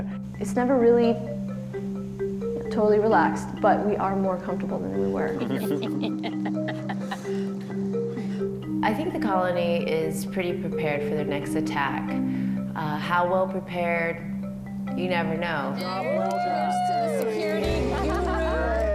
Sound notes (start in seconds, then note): 5.3 laughter; 15.8 cheering